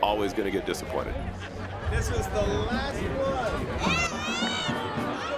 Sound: crowd groans

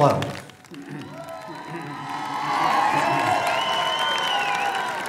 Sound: applause

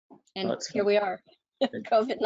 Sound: chuckles; murmurs

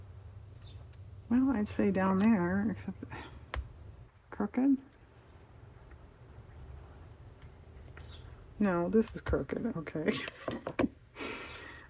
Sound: laughs

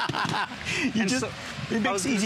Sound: laughter

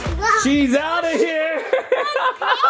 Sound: laughs

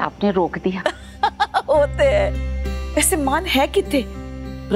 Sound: laughing

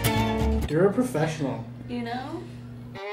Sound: voiceover

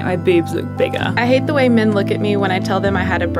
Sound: voiceover

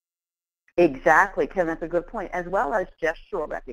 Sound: voiceover

